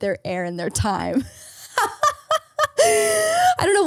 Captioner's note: laughing